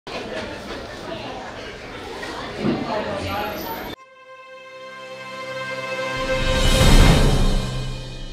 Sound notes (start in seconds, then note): 0.0 restaurant customers chatting; 4.0 dramatic music